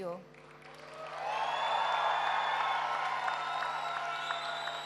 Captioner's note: applause